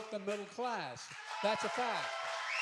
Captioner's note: applause